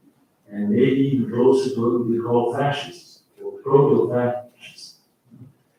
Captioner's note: faintly speaking